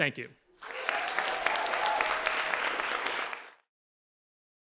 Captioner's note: applause, cheers